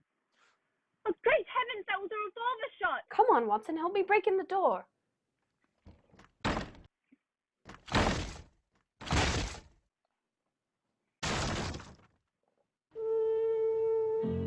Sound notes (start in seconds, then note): 6.4 banging against door; 12.3 musical accent